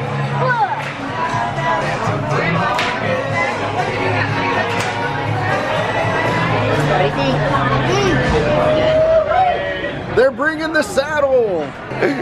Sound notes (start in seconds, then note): 2.7 claps